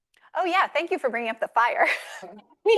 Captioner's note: laughs